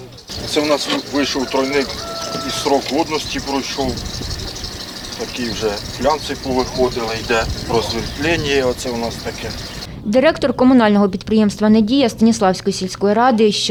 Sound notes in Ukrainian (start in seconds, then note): 0.0 звук двигуна трактора